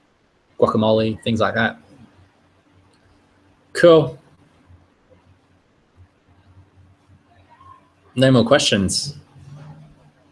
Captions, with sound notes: Guacamole, things like that. Cool. (muted computer chattering) No more questions.